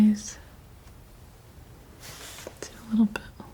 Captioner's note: scratching